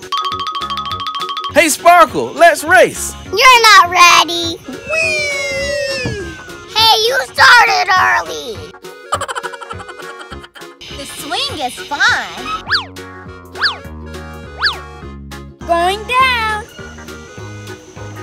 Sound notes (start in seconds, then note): 9.0 laughs; 12.6 swish